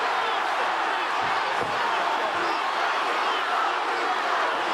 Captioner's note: audience cheers; audience chanting